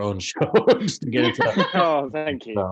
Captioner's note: laughing